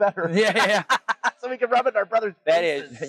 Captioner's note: laugh